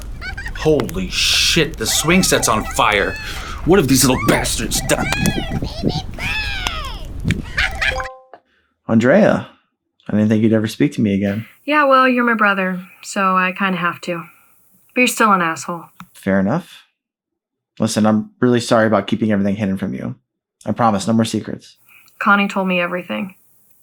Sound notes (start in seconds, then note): 8.0 computer dings